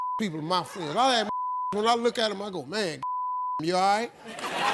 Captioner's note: beep